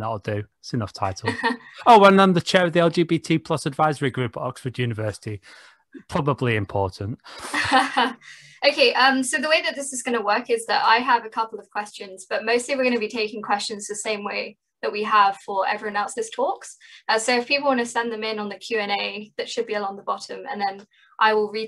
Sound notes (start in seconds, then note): 1.2 laughs; 7.0 laughs again